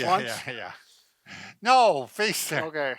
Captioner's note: laughs